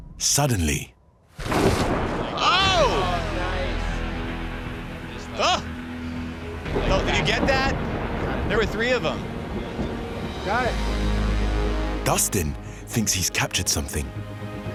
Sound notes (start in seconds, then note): 1.4 loud crack of thunder; 2.3 shouts of surprise